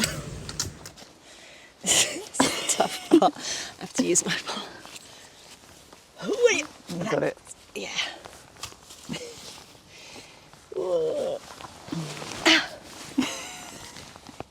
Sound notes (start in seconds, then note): 5.8 groan; 10.6 groans and giggles